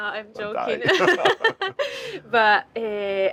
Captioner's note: both laugh